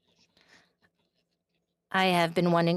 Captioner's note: speaking in French